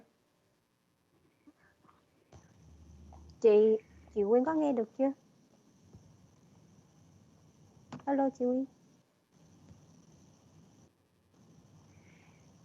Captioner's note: speaks non-English language